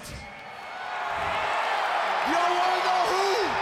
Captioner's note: crowd cheering